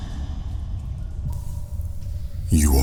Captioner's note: cave noises